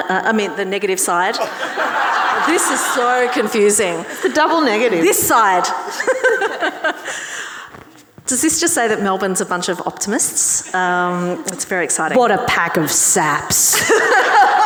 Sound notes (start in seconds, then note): 1.2 audience and panellists laughing; 6.9 laughs